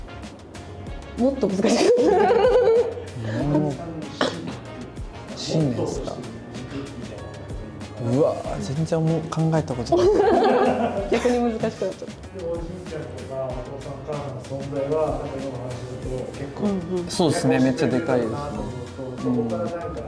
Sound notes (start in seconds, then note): 1.6 laughs; 9.9 laughs